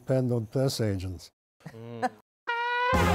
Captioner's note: chuckles